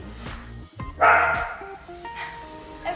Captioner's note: dog bark